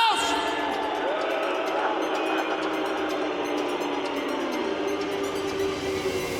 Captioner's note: crowd booing